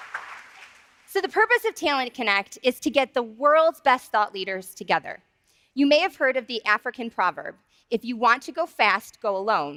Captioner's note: applause